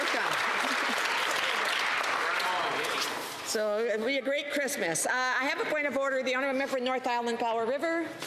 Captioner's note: some Applause